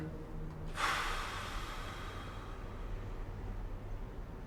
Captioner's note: sighs tiredly